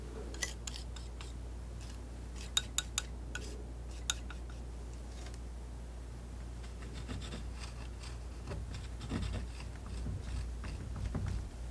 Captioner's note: tapping on table